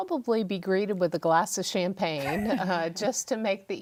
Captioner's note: laughs